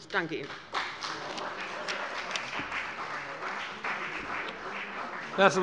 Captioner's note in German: Beifall bei dem BÜNDNIS 90/DIE GRÜNEN und der CDU